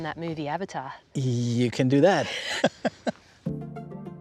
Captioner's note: both laugh